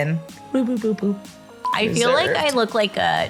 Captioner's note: beeping